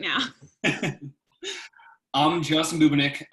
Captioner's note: laughter